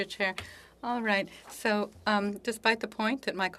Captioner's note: speaking French